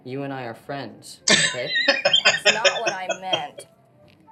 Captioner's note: laughing